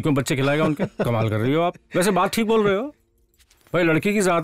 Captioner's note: Laughs